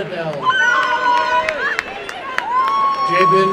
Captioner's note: applause and cheering